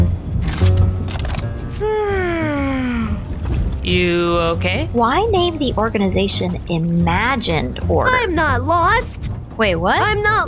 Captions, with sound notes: (gun clicks) (yawns) - You okay? - Why name the organization Imagine Tour? - I'm not lost! - Wait what?